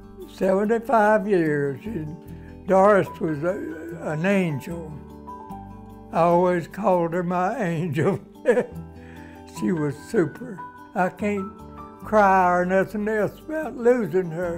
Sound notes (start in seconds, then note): 8.4 laughs